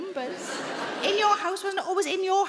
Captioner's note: audience laughing